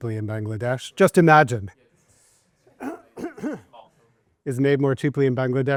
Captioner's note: student speaks faintly